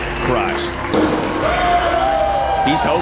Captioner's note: crowd cheering, applauding